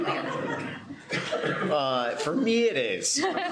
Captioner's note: laughter; laughter